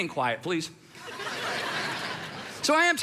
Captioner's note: congregation laughs